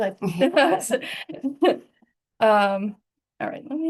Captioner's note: laughter